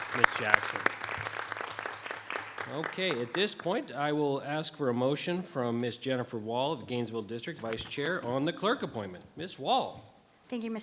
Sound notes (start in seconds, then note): 0.0 audience applauding